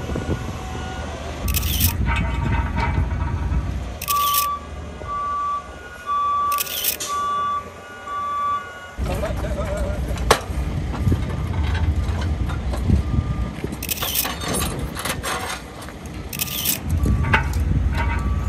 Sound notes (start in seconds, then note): 1.4 sound of construction workers and camera shutter clicking; 9.3 sound of a construction worker lifting support braces; 13.6 sound of construction workers and camera shutter clicking